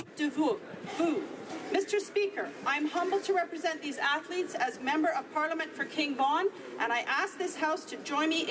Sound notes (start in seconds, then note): 4.6 speaking French